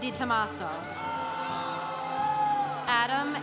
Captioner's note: congregation cheering